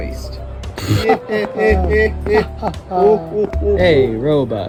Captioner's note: laughing